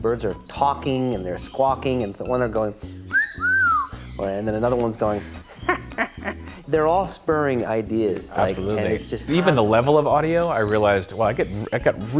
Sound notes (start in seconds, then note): 3.0 whistles; 5.4 parrot laugh